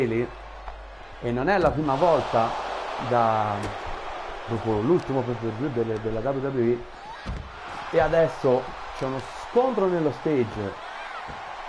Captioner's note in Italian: Applauso